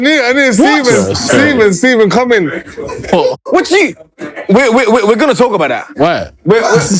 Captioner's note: giggling